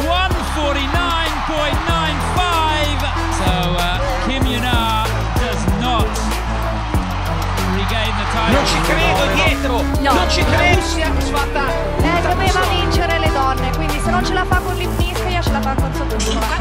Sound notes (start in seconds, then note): 8.4 Italian